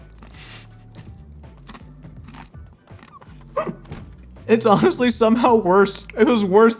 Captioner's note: laughs